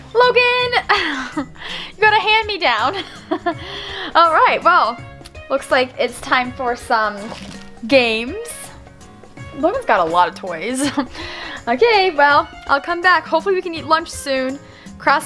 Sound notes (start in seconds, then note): 2.9 laughs; 2.9 chuckles